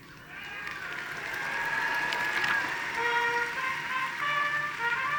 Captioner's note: audience cheering and applauding; graduation music